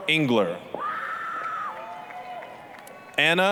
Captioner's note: applause, cheering